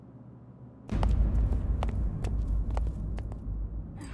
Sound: footsteps receding

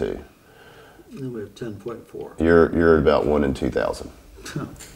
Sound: interviewee mutters

